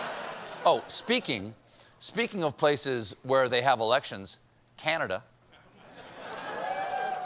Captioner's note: laughter